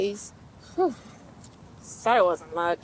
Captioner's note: Farrah sighs